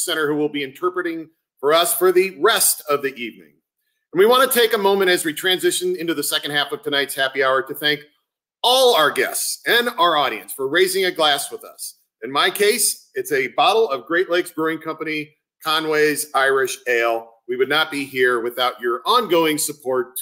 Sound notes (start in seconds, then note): none